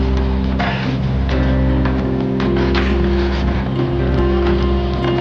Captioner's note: gasping